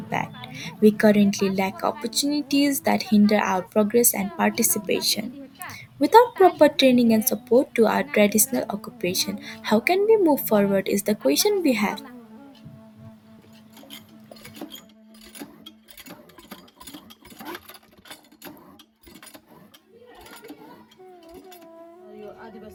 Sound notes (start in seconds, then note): 16.1 loud, squeaky pumping sounds